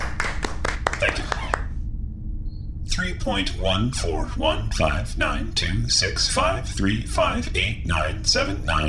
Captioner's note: everyone applauds